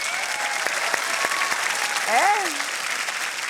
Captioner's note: applause